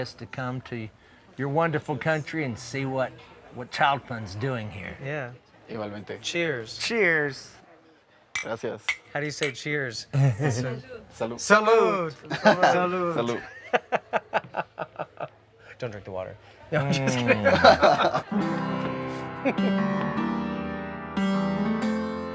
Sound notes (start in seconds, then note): 10.1 laughing; 18.0 light-hearted guitar music